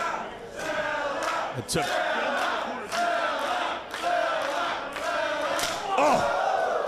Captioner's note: applause